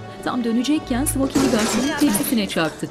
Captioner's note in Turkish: Müzik - Dans; Çarpma sesi; Müzik - Dans